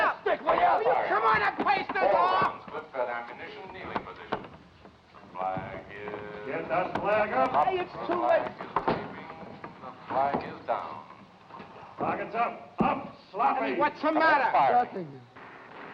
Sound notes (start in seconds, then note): 2.7 voice On Loudspeaker; 8.6 voice On Loudspeaker; 15.7 guns firing